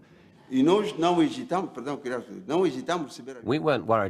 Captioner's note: non-english speech